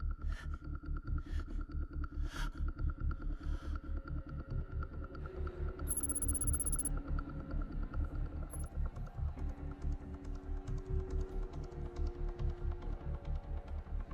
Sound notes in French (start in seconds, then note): 5.9 texte vrombissant